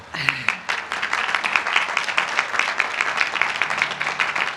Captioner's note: applause